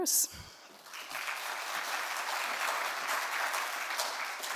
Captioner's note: audience clapping